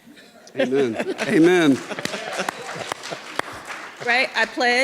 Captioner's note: audience clapping